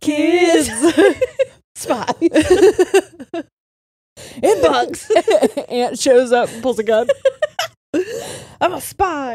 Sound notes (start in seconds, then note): 0.2 all laughing; 4.5 all laughing